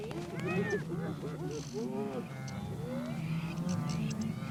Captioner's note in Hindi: जानवरों की आवाज़ें